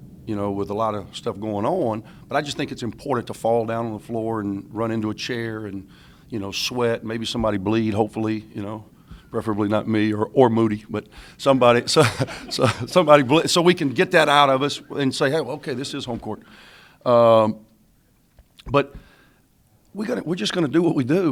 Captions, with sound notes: with a lot of stuff going on, but I just think it's important to fall down on the floor and run into a chair and sweat, maybe somebody bleed hopefully, preferably not me or Moody, but somebody (laughs). So we can get that out of us and say okay this is home court. But we're just going to do what we do.